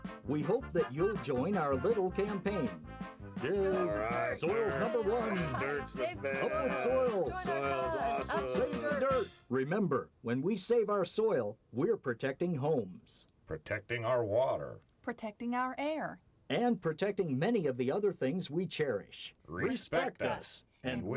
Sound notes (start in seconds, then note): 3.8 cheering